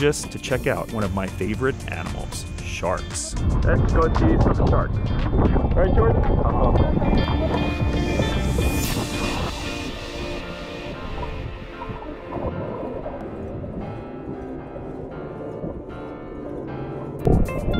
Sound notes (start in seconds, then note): 11.4 water gurgling